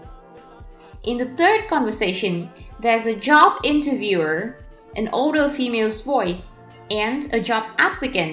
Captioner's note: an older female’s voice